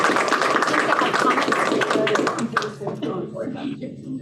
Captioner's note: applause